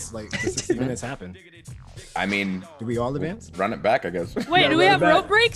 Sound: laugh

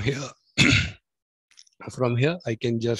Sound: coughs

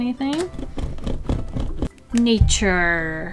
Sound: eraser rolling

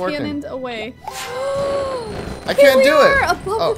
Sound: gasps

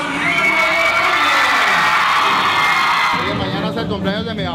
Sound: crowd cheering

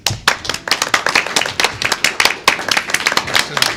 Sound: clapping

